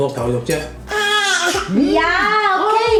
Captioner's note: baby whining